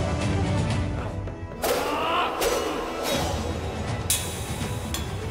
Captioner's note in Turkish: Bıçak Atma Sesi